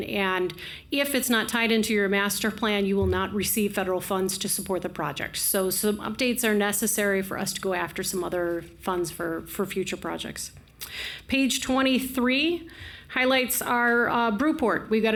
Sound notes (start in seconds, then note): none